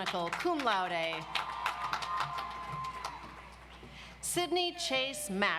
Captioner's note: audience applauds